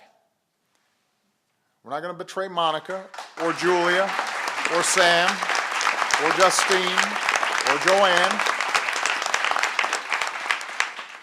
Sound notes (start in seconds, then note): 9.5 applause